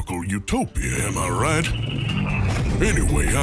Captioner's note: sounds of spaceship passing